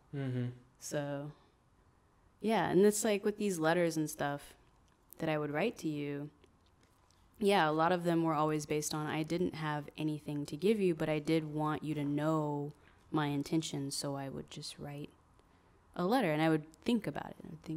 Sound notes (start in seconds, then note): none